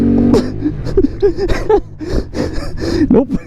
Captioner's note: laughing